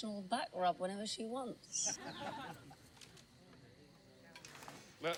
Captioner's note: laughing